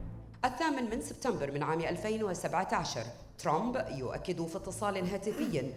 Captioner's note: female speaking in foreign language